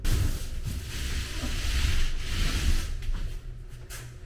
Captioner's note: paintbrush rolling